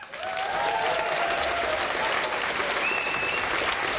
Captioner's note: audience applause